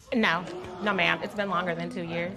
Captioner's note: spectators gasp